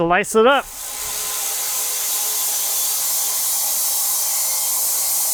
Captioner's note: machine whirring